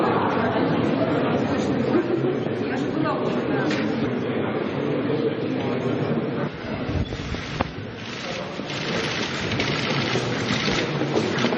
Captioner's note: background noise and comments